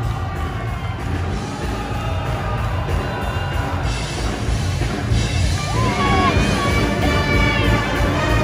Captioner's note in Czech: Potlesk